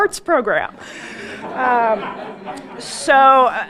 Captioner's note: audience laughing